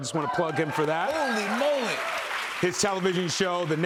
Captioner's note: cheers and applause